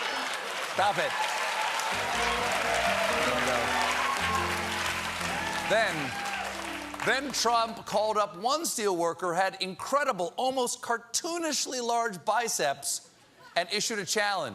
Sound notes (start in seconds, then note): 1.9 piano riff; 2.7 cheers and applause